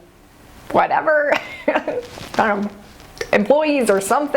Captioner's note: laughs